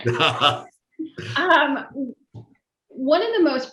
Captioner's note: laughs